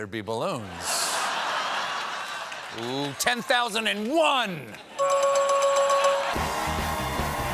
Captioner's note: laughter